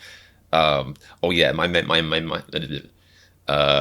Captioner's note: stuttering